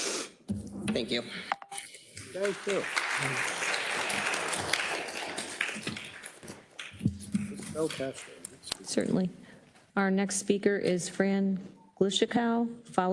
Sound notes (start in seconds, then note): 2.1 attendees applauding